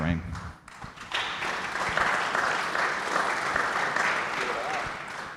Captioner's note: audience applauds